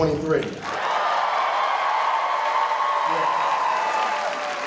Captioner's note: audience cheering